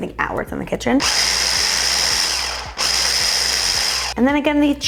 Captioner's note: blender roaring